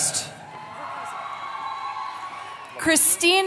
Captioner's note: cheering